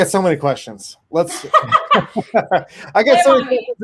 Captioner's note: laughs